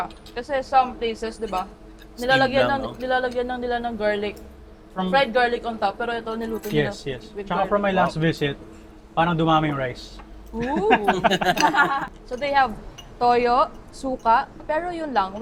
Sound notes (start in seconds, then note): 10.5 laughs